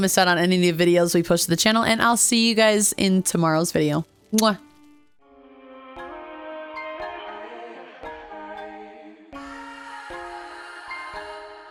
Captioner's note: kiss